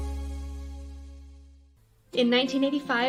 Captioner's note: none